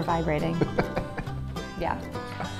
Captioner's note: laughs